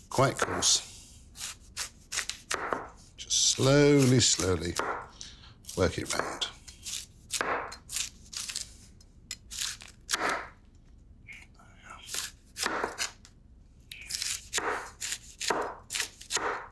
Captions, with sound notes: Quite coarse. Just slowly, slowly work it round. (knife chopping) There we are. (knife chopping)